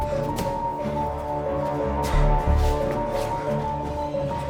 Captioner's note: heavy breathing; light dramatic music